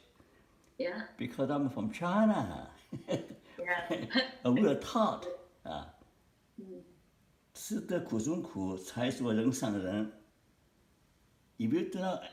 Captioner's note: Mandarin